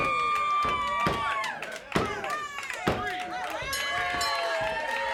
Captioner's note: bell dings; audience cheers